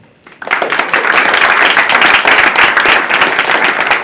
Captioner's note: applause